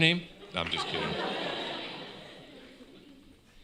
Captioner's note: laughter